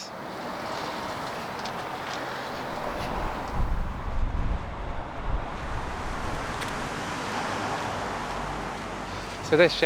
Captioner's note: footsteps